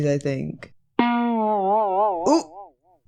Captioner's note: silly sound